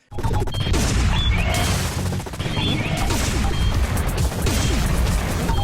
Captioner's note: game sounds and music playing